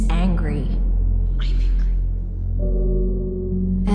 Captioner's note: whispers